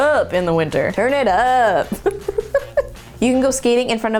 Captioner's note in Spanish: risas